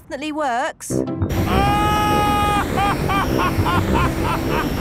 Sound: excited screaming, laughing

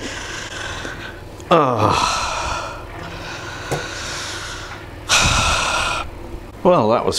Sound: aaaargh!!!; deep, disgusted sighs

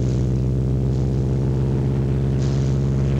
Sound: none

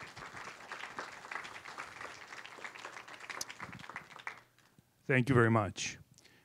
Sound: applause

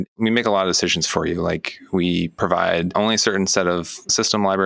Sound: none

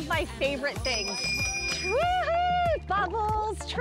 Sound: bell ringing

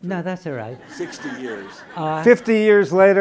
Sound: laughing

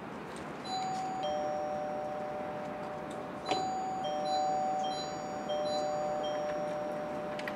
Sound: door bell rings

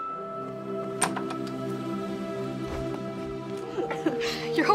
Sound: door opening

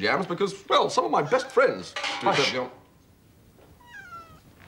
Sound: miaowing

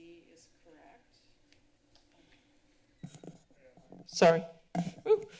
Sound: pause

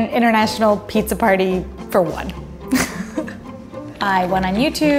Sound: laughs

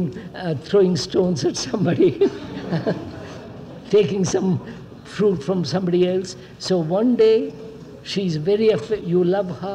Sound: laughs

